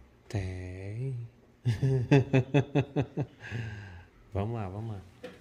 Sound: laughs

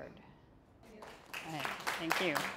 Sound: audience applauding

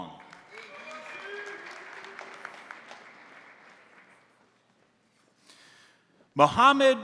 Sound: crowd applauding; crowd cheering

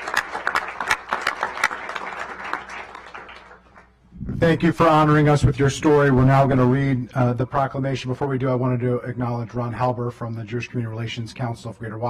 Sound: applause

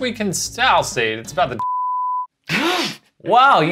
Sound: beeping; all gasping

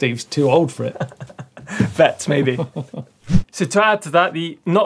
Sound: laughs

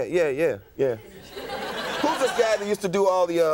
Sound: audience laughing

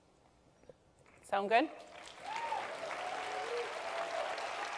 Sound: cheers and Applause

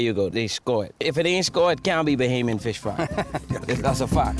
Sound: laughs

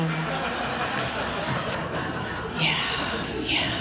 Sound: laughter

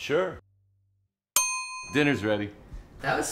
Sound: dinner bell

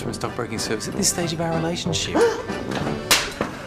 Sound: gasps

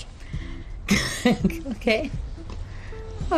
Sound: laughs

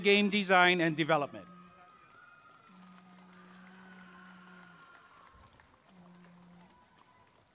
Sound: applause and cheering

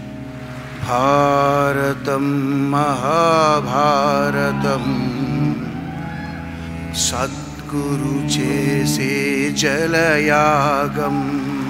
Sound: cheers

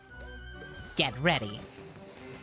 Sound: SpongeBob Voice

